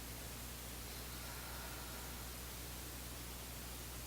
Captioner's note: exhaling